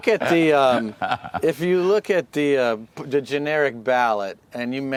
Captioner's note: laughter